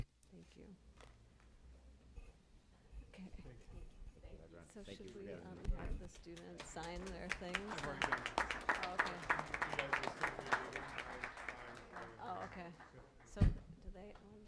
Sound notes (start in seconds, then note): 7.7 applause